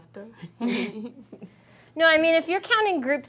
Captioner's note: class chuckling